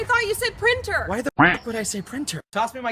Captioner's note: quack